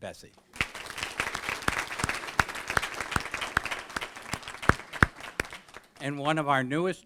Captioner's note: applause